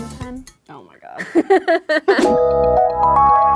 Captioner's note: laughing; mysterious music